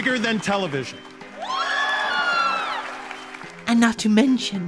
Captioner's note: crowd screaming